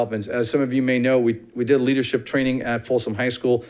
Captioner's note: none